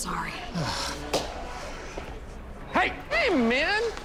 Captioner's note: sighs